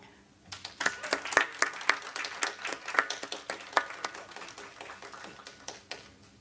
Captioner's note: audience applauds